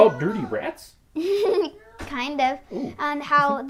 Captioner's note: giggles